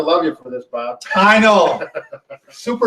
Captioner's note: chuckles